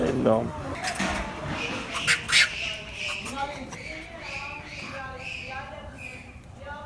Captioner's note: monkey sounds